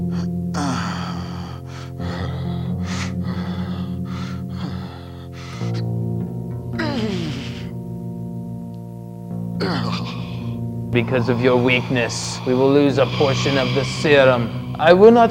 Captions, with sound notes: (Groden whines) Because of your weakness, we will lose a portion of the serum.